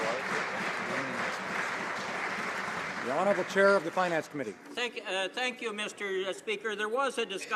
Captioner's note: some Applause